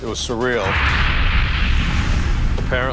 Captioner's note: fire roars